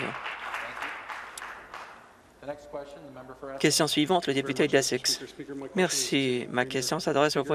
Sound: some Applause

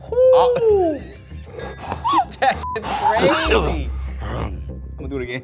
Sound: beep

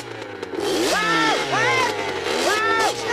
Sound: Rod screaming for his life in the middle of the nowhere

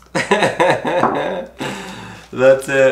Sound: laughing

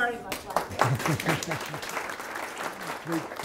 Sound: applause

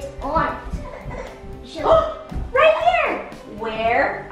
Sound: gasps

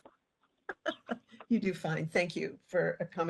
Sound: laughing

